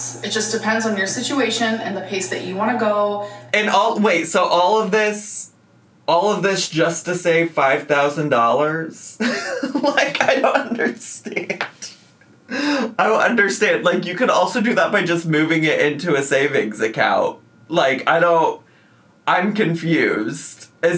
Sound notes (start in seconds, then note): 9.2 laughs